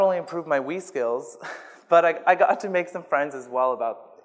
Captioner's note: laughs